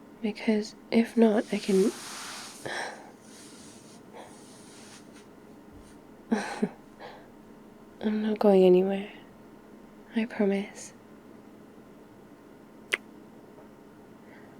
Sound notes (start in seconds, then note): 6.3 laughs; 12.9 kiss